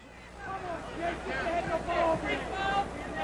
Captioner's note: fan yelling